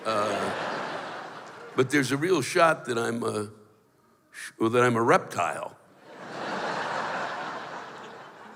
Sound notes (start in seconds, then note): 0.0 laughter; 6.0 laughter